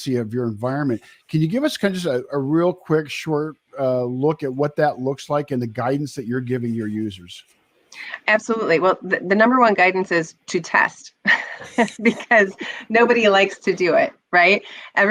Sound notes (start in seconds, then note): 11.3 laughs